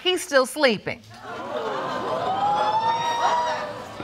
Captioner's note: audience gasps